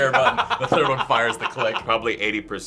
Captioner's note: laughing